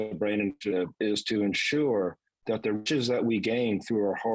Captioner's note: voice cracks